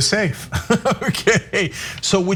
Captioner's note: laugh